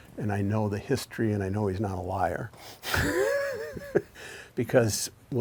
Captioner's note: laughs